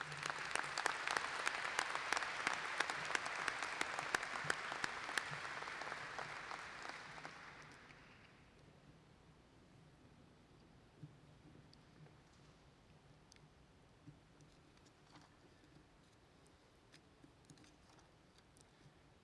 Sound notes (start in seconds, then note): 7.1 applause